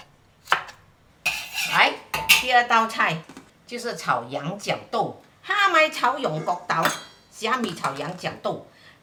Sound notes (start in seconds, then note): 5.4 Cantonese